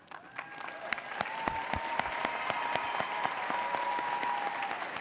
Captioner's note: audience applauds